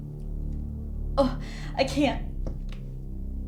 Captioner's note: gags